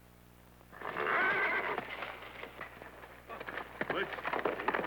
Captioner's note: horse neighing